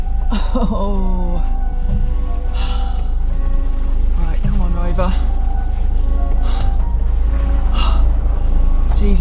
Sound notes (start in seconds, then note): 2.4 huff; 6.2 huffing & puffing